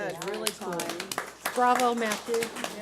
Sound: board applauds

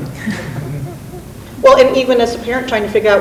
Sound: laughs

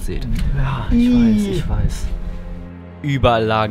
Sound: sounds of disgust

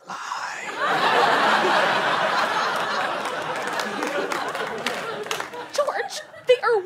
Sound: audience laughter

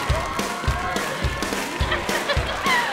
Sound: laughing

